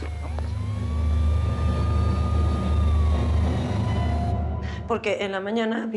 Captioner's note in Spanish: sonido de sirenas